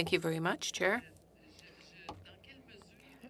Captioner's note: speaking French